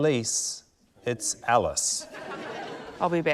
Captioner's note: laughter